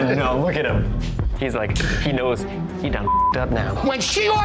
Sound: beeps

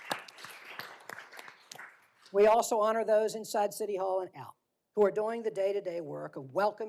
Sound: applause

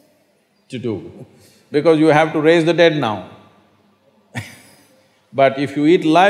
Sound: laughs

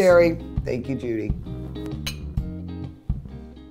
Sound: clinking

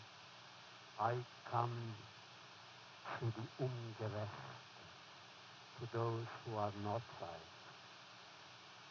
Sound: foreign language

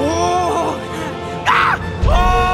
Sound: ben yelps

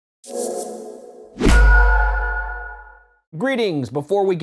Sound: logo whooshing and swishing

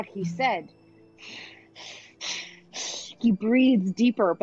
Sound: Talron breathing deeply

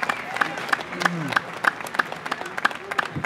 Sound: applause

